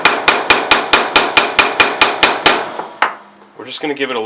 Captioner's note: hammering on metal